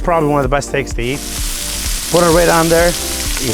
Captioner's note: sizzling sound